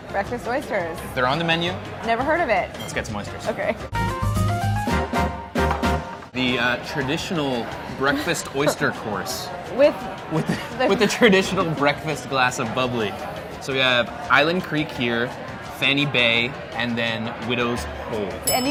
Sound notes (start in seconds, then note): 10.2 laughs; 18.4 bell dinging